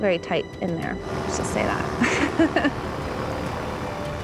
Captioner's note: laughs